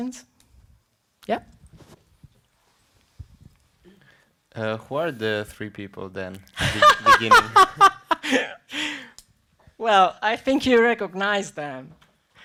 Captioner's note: laughter